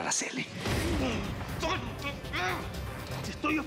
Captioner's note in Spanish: expresiones de esfuerzo